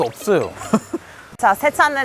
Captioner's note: spit